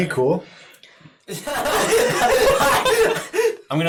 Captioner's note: everyone laughing